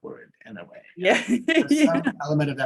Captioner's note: laughing